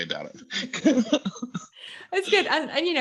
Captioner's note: laugh